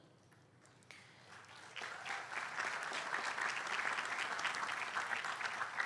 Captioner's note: applause